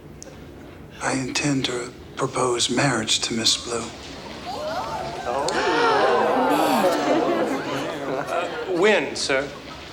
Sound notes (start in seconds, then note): 4.0 townsfolk gasp; 4.4 gasps